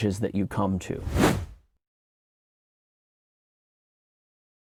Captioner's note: air whooshing